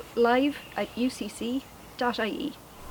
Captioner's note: bird sound